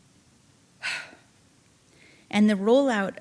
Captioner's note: sighing